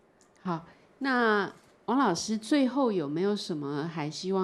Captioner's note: Mandarin